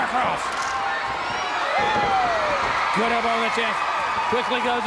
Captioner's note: crowd cheering